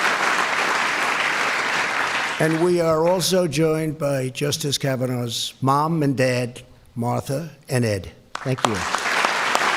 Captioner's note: applause